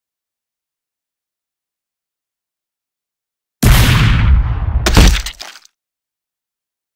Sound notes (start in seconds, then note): 3.6 gun shot; 4.8 body hit